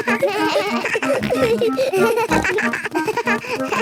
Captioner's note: giggles; snorts, bleating